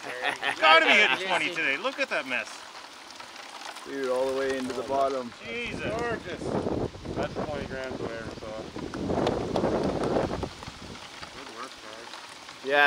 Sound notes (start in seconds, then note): 0.0 laughs; 6.0 group chattering; 9.5 wind howling